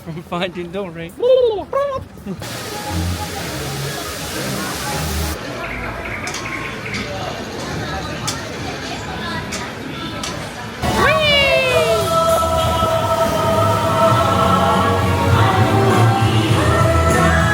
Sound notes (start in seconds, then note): 2.4 water flowing; 6.8 crowd murmuring; 11.5 bright music